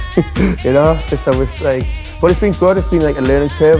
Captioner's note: laughs